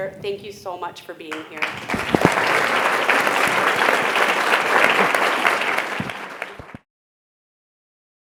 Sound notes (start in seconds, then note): 1.3 attendees applauding